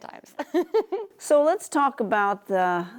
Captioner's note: laughs